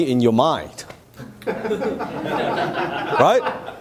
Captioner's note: audience laughing